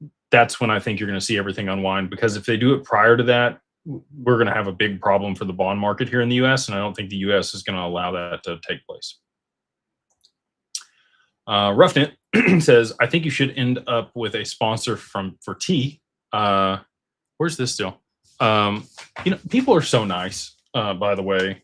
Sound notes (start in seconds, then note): 12.3 clears throat